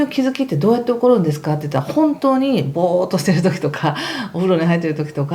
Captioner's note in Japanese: 笑い